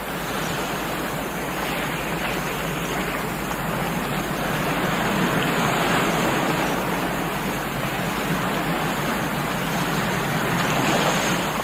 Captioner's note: wind Sounds